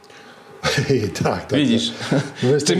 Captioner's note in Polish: śmiech